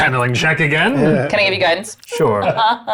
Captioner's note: chuckling